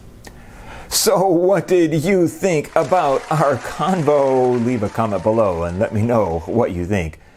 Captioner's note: applause